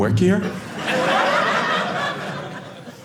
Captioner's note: audience laughing